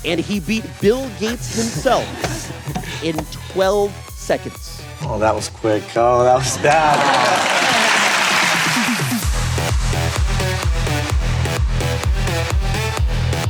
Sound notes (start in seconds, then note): 6.5 crowd cheering, applauding; 7.1 laughs